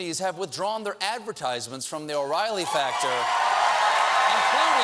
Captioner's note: cheers and applause